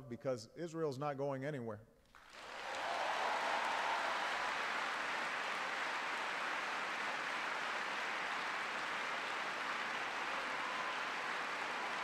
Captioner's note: applause